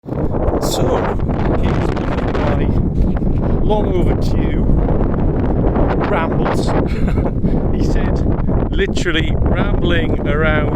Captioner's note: laughter